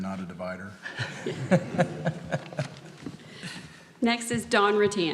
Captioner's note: group laughs